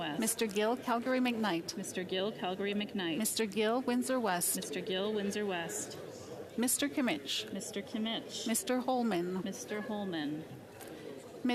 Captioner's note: calling of recorded vote